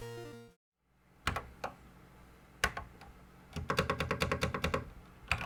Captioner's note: typing on a Commodore 64 keyboard